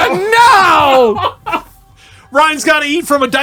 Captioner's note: laughing